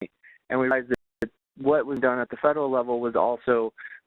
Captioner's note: voice distorting